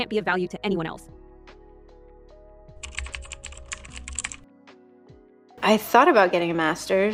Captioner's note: pause